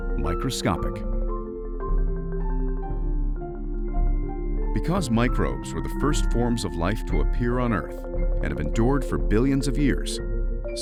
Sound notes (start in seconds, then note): none